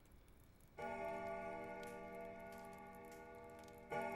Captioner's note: clock chiming